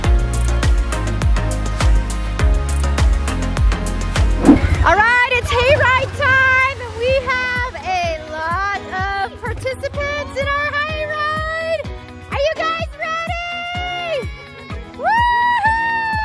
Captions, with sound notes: - All right its hay ride time! And we have a lot participants in our hay ride. Are you guys ready? (children cheer) - Woo hoo!